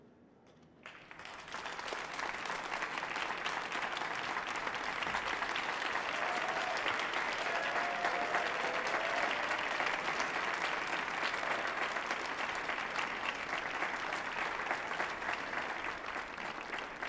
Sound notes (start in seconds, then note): 1.1 audience applauding